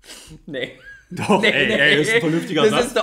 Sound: laughs

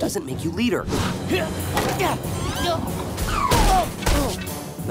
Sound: grunting

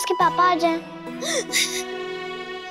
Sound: sobbing

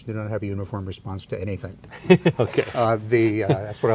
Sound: laughs

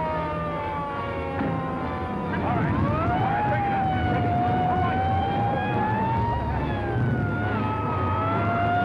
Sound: police sirens blare

